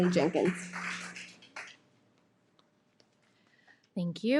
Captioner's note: audience clapping